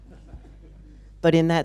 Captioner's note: laughter